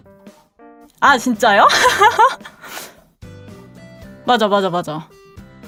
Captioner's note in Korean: 웃음; 콧방귀